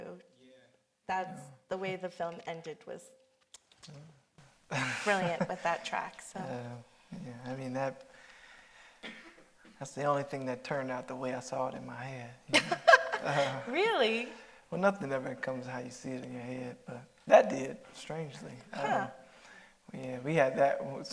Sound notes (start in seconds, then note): 15.0 Mireille laughing